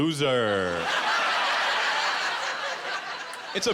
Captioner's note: laughter